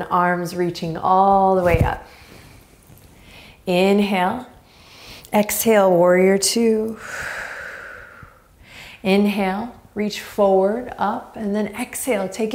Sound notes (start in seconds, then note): 3.1 inhaling deeply; 7.0 exhaling strongly